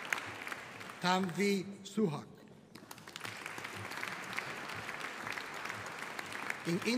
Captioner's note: audience applauding